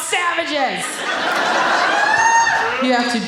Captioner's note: audience laughing